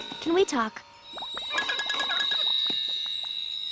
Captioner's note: ringing